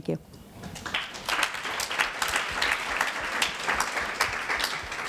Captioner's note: audience applause